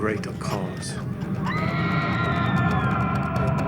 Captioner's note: man screaming; woman screaming; dramatic music